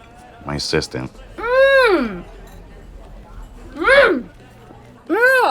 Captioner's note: woman grunts